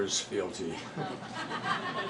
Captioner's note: laughter